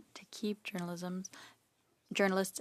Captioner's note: speaking in French